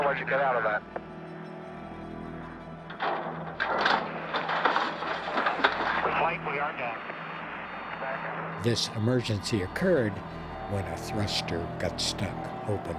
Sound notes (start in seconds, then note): 2.9 clanking